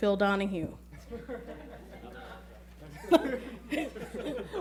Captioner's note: laughing